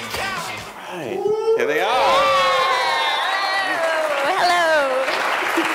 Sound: cheering and applause

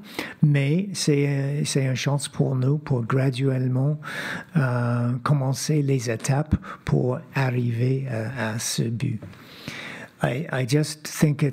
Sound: speaking French

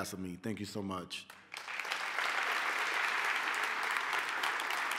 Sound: applause

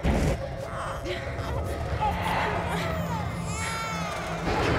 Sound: Makayla exclaims, baby cries

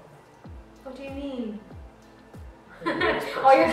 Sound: laugh

